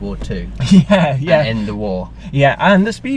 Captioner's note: laughing